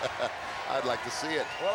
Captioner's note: Ted chuckles